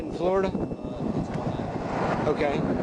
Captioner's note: muttering